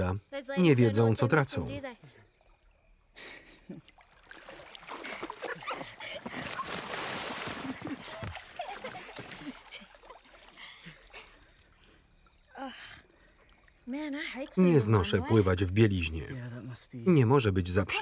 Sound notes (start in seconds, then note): 3.8 water splashing; 4.2 laughter